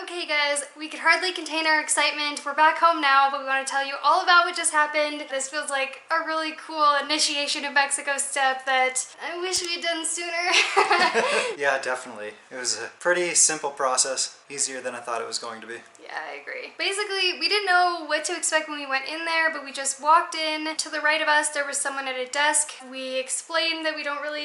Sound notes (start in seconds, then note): 10.5 laughter